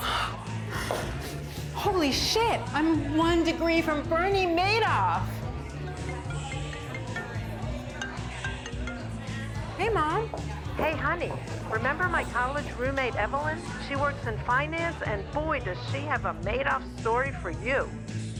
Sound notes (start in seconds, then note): 0.0 gasps; 5.9 phone ringing